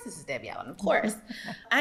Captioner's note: laughs